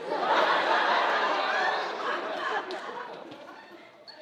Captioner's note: audience laughing